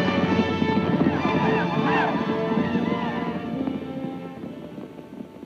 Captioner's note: Apaches shout